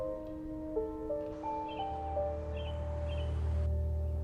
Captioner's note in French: gazouillis d'oiseaux